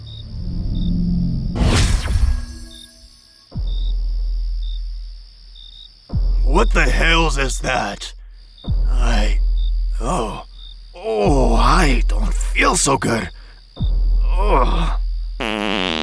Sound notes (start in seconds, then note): 15.4 farts